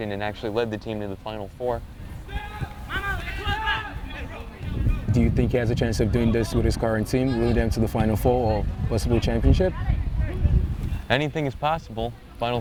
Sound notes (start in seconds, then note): 2.2 players shouting